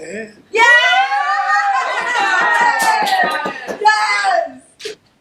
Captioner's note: background cheering